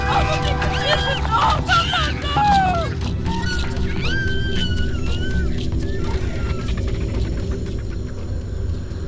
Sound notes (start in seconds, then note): 3.6 child screams; 5.5 dramatic music continues